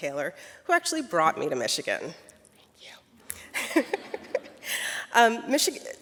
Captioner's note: laughs